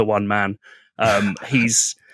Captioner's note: laughs